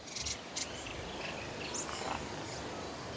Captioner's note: birds chirps